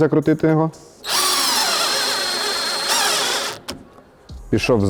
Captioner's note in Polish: dźwięk wkrętarki